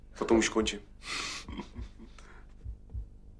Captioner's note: laughs